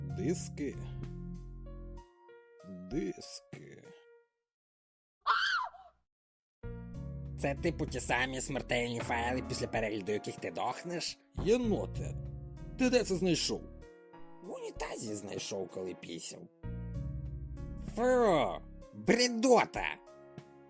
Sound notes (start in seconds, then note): 5.2 screaming_woman.mp3